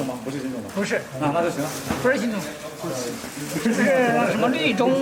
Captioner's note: speaking in foreign language